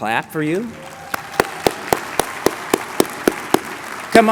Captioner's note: applause